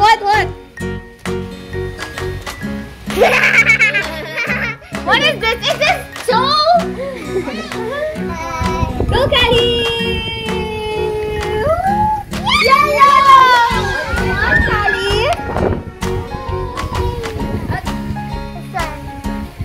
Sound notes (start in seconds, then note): 3.1 laughing